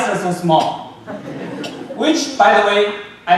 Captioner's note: audience laughing